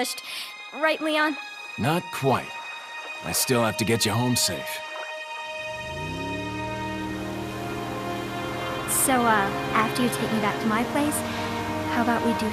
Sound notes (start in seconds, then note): 5.7 motor Rumble